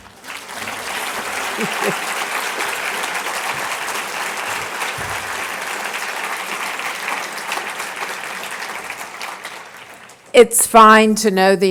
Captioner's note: applause